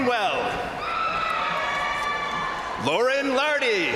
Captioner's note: crowd cheering; crowd applauding